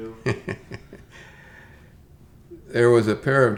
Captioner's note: laughs